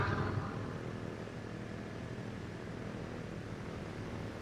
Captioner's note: aircraft engines sounding